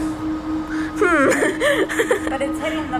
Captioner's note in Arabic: يضحك